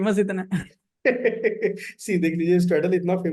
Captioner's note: laughs